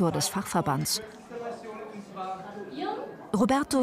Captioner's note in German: Stimmengewirr